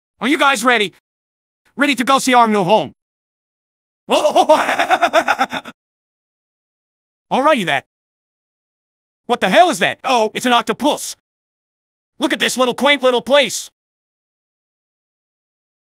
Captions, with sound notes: Are you guys ready? Ready to go see our new home? [Goofy laughter] Alrighty then. What the hell is that? Oh, it's an octopus. Look at this little quaint little place.